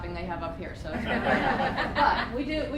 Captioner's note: laughter